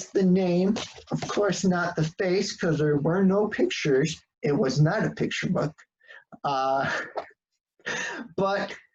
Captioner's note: laughs